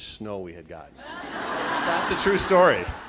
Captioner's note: laughing